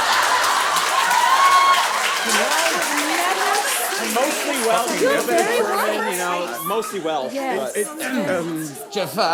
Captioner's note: murmured agreement